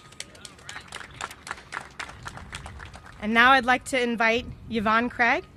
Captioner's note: applause